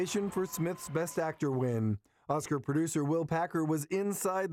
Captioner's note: applause